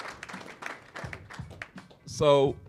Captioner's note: applause